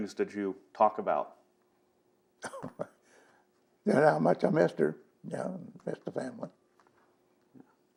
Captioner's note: laughter